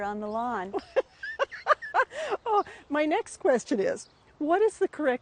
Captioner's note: laughing